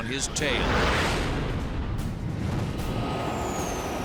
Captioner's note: jet engine noises